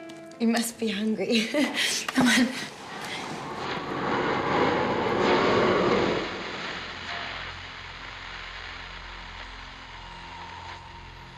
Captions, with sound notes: - You must be hungry (laughs) come on. (radio static)